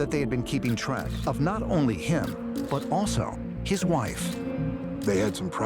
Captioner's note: shutter clicking